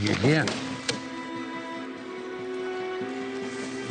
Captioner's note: cards slapping